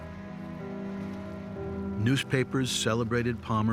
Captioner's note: ship horn blares